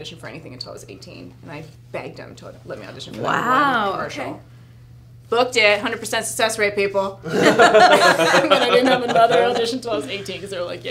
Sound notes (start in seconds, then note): 7.3 laughing